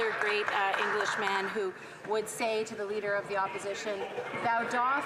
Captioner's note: some Applause